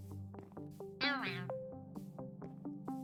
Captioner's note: creature sound